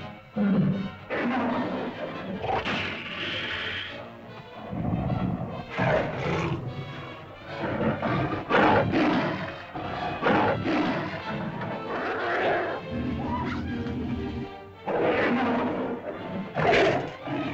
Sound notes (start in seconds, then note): 0.0 lizard moans & bellows; 0.0 suspenseful music; 2.2 lizard snarls & growls; 2.2 suspenseful music; 12.9 lizard growls; 12.9 cavepeople yelp; 14.6 suspenseful music; 14.8 lizard snarls & growls